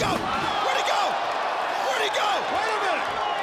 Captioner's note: crowd cheers